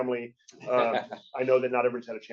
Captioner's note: chuckling